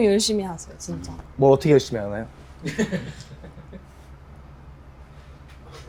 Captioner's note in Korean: 웃음